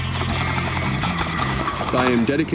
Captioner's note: water pipe bubbling